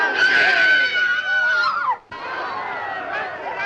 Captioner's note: screaming; crowd shouting